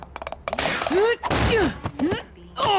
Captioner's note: bang